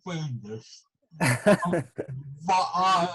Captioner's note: laughs